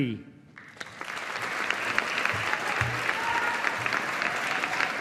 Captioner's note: audience applauding